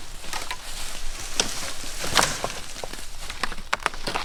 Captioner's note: branches clatter